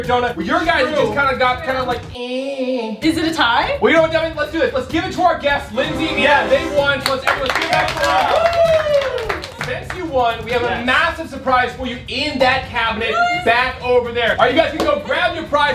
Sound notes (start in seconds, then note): 7.1 cheering